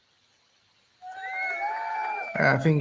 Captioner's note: recorded crowd cheering